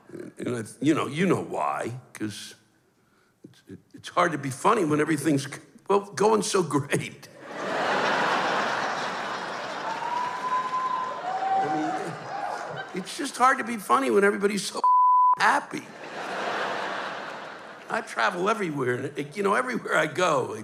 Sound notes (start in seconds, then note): 7.4 laughter, cheers; 15.8 laughter